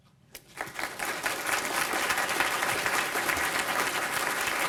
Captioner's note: applause